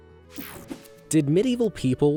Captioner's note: image whooshing